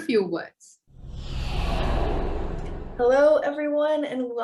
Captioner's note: air whooshing